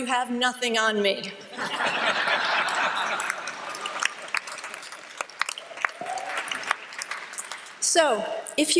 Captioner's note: laughter and applause